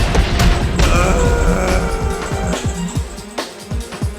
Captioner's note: Goon-4-Less scream of death